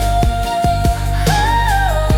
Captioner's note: humming